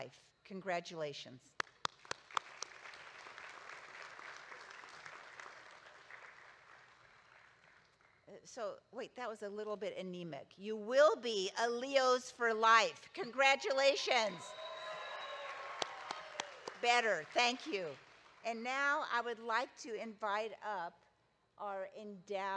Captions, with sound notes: Congratulations. (audience applauding) So wait, that was a little bit anemic. You will be a Leo's for life, congratulations. (audience cheering) Better, thank you. And now I would like to invite up our endowed